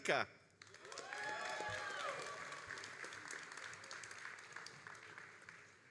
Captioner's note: all applauding and cheering